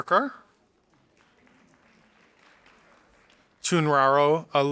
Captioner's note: audience applauding